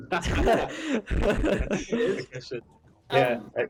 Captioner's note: laughter